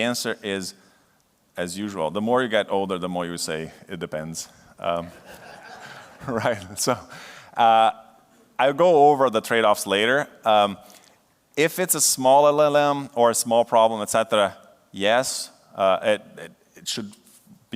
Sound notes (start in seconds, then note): 5.0 laughter